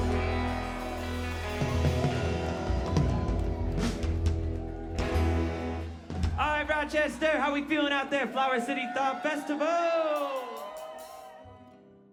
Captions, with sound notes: [crowd cheering] Alright Rochester, how we feeling out there Flower City Thaw Festival?!